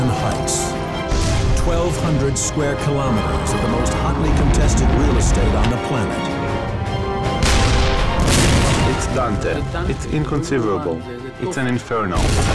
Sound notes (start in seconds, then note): 7.3 artillery booming; 7.3 explosions booming